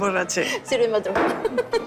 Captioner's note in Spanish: Risas